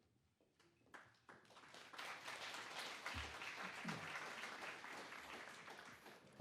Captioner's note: applause